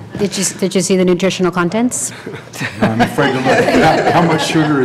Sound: laughter

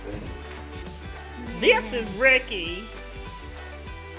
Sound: laughing; in silly voice

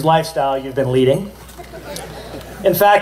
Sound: laughter

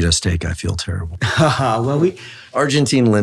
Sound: David laughs

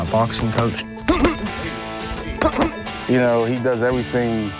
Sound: grunting

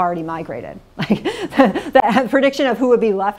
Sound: laughs

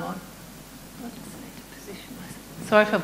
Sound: mumbles

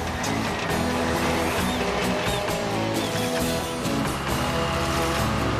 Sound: machine Engines Running

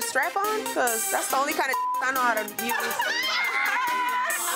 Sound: beep

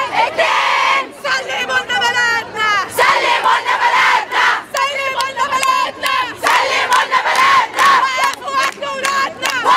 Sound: chants; chants

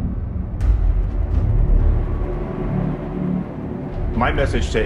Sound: distant sirens

